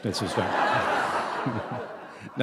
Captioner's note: laughter